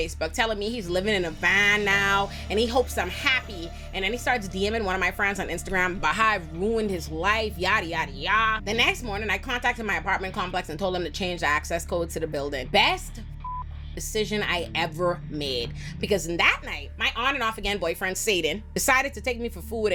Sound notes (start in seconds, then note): 13.4 beep